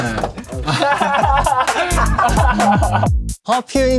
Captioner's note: laughs